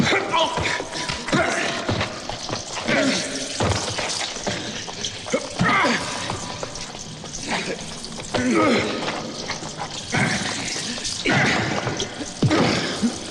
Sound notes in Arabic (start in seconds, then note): 0.8 آهات